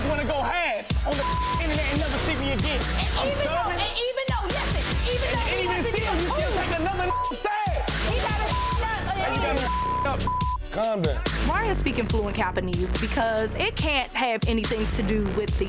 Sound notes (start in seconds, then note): 1.0 beep; 8.0 beep; 10.8 beep